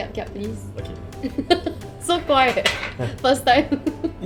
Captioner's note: laughs